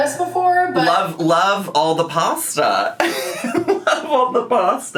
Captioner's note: laughs